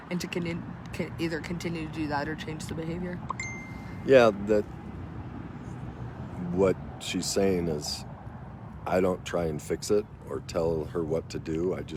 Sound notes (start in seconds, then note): 3.2 phone dings